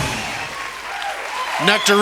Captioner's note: cheers and applause